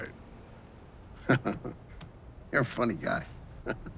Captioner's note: chuckles